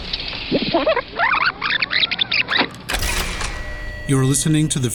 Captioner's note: record screeching